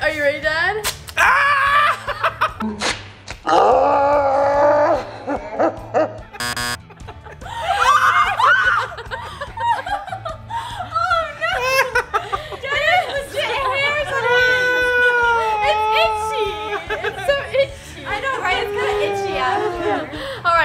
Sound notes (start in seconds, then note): 1.2 screaming; 2.0 slow motion screaming; 6.4 buzzer; 7.7 screaming; 9.3 laughing